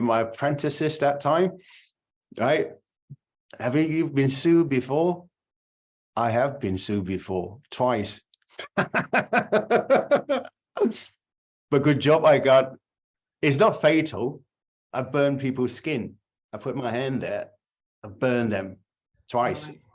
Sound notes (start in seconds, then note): 8.6 laughter